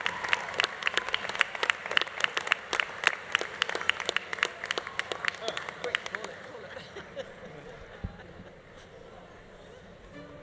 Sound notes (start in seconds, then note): 0.0 audience applause continues; 0.0 audience cheering continues; 3.6 audience applause continues; 5.3 people laughing; 10.2 bright music